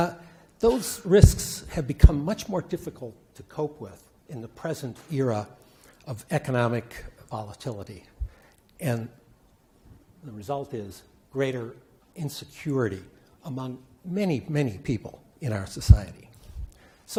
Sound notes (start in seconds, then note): none